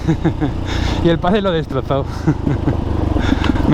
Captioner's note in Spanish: risas